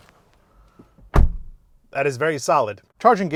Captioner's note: door thumps